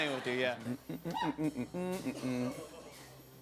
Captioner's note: humming